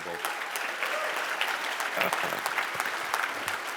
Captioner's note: cheers and applause